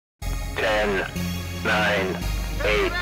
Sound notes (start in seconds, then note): 0.4 male Voice